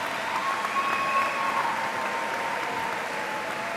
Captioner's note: cheers and applause